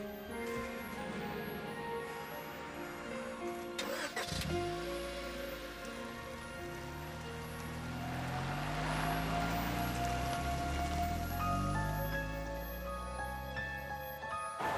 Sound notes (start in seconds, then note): 3.4 engine revs